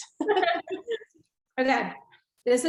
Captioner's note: laughing